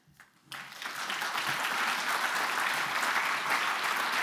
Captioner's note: audience applauding